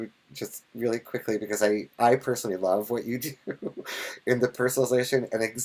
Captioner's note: laughs